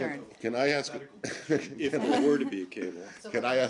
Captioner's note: laughter